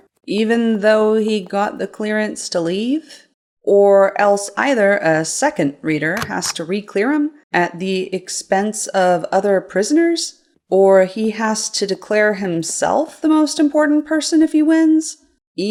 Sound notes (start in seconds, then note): 6.2 stamp click-clunks